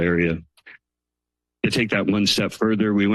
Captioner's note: pause